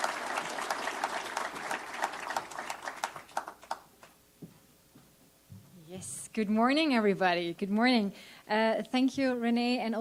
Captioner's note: applause